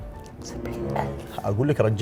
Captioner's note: whispers